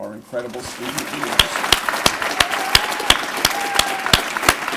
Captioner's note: applause